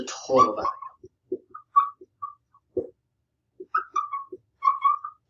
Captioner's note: marker squeaking